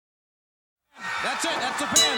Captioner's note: crowd cheering; bell ringing